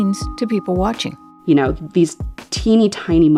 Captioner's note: soundbite of archived npr recording